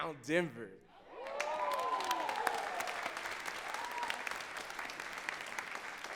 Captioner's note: audience cheering and clapping